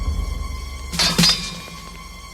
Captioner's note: swords clank